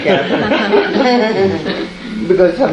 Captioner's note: laughter